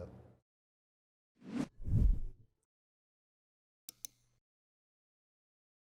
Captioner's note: soft graphic whooshing sounds